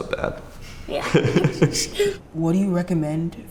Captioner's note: laughter